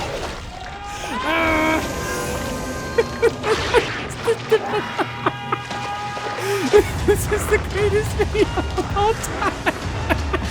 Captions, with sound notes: [laughs] This is the greatest thing of all time.